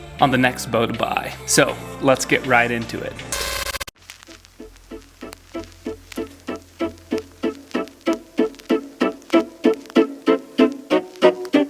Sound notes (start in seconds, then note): 3.3 loud screech; 4.9 mellow music